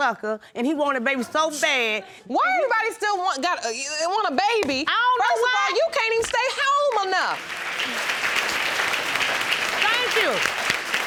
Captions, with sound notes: and he wanted babies so bad... Why everybody still want a baby? First of all, you can't even stay home enough. (AUDIENCE CLAPPING) Thank you.